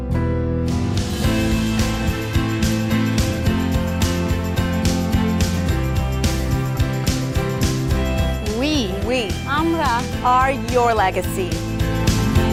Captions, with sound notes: We-- We-- [NON-ENGLISH SPEECH] --are your legacy.